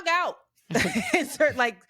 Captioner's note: laughs